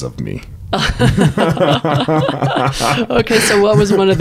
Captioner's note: laughing